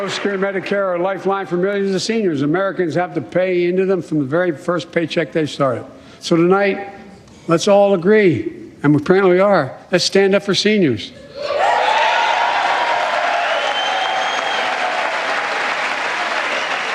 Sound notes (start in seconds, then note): 0.0 applause